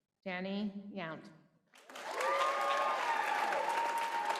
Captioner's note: applause